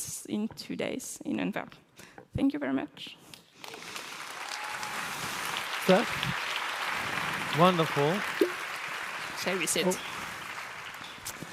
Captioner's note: applause